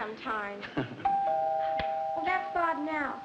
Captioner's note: doorbell rings